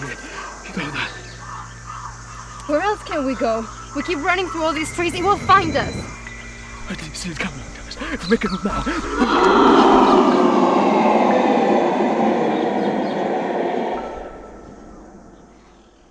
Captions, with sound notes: You know that ... Where else can we go? We keep running through all these trees and we'll find us! I didn't see it coming ... If we make a move now we can- (distorted roar) [music fades]